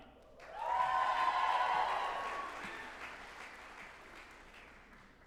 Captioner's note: group applauding and cheering